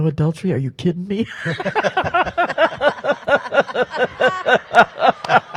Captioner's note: panel laughs